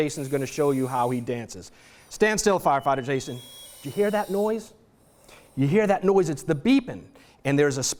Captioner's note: chirping